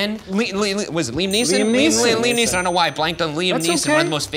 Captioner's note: bell dings